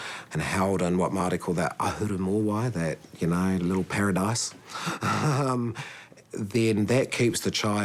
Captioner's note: chuckles